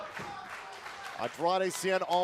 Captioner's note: fans chanting